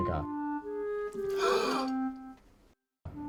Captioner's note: Veronica gasps